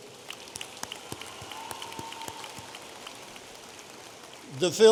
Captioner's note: audience applauding